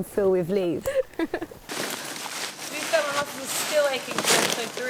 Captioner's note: laughs